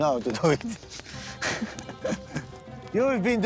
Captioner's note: laughing